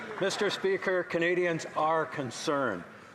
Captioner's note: some Applause